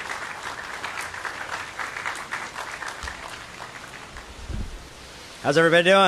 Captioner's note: applause